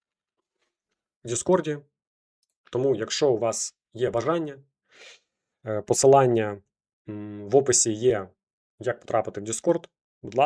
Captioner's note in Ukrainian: сопіння